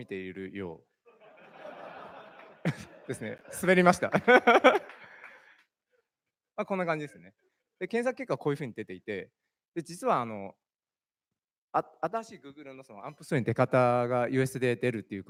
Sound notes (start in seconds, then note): 1.1 laughter; 2.2 speaking japanese